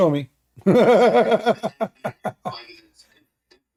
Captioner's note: Ketawa